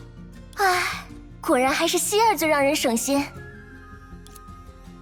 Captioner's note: sigh